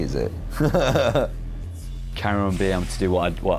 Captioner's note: laughs